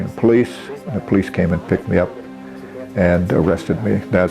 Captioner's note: non-english speech